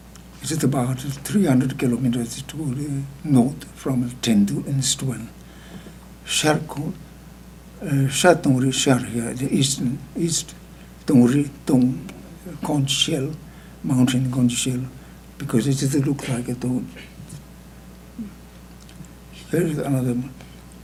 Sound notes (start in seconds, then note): 8.1 speaking tibetan